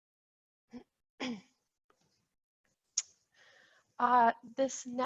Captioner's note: clears throat